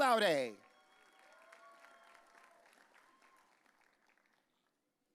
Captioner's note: audience cheering